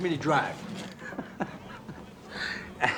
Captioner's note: laughs